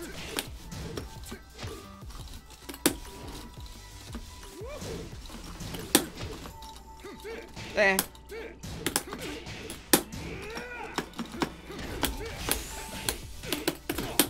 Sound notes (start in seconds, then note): 7.6 whine